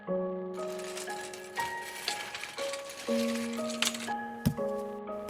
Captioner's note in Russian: скрип кровати; шаги